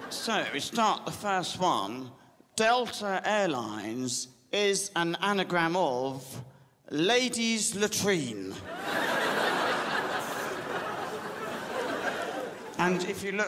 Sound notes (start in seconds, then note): 8.6 crowd laughs